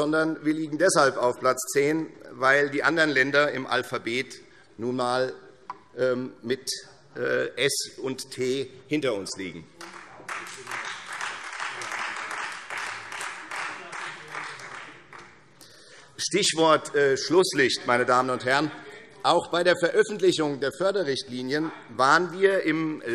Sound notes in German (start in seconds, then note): 9.8 Beifall Freie Demokraten